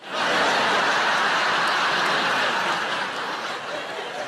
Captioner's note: audience laughs